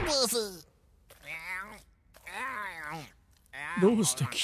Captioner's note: slurping